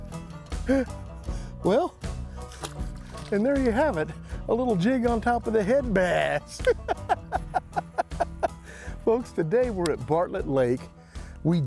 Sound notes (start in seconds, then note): 6.6 laughing